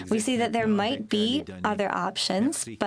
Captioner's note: speaking French